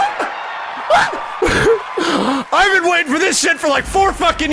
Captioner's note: gasps excitedly